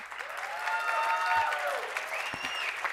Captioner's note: applause